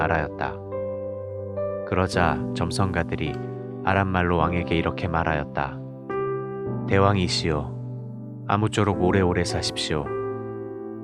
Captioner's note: speaking in Aramaic